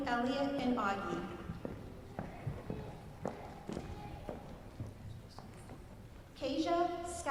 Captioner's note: footsteps